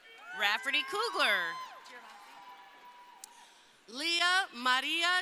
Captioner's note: crowd cheering